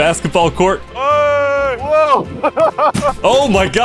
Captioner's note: laughs